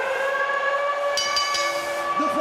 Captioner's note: bell rings